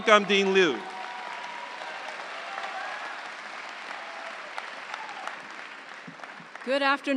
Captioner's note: audience cheering; audience applauds